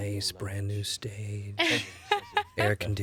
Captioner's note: katic laughs